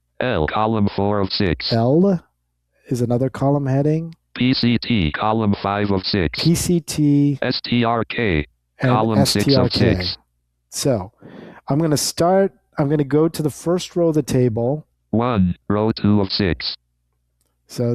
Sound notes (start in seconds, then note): 4.4 automated Voice; 15.3 automated Voice